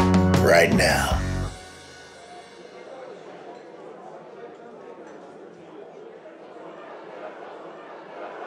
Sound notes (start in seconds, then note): 3.3 crowd murmuring